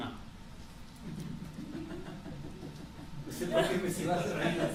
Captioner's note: laughter